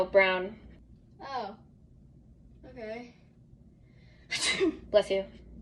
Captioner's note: sneezes